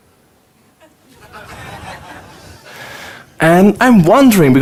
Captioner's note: audience laughter